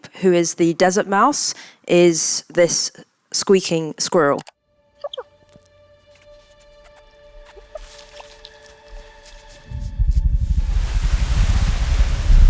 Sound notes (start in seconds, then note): 4.5 gentle music; 5.0 Muad'Dib chirping